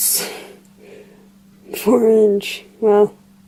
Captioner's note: laughs